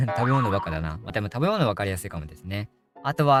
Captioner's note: laughs